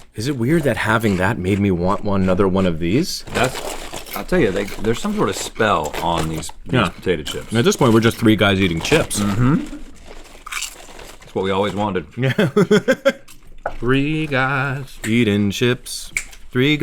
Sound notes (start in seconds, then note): 11.5 crunching; 12.2 laughing